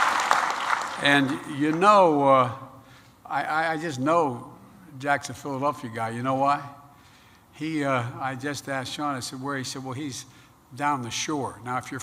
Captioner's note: applause